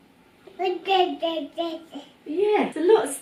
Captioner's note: baby babbling